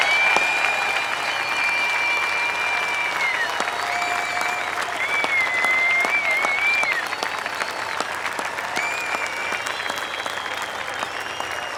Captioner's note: applause